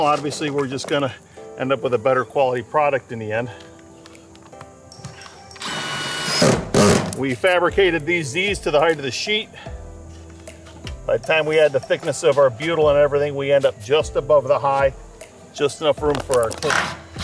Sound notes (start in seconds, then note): 3.7 soft music; 5.6 drill rattling; 15.0 soft music; 17.0 drill rattling